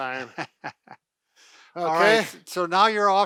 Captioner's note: laughter